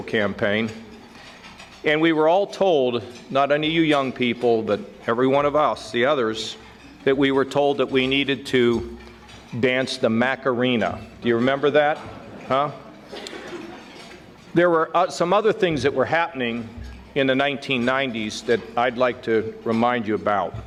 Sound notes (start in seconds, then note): 11.9 audience laughing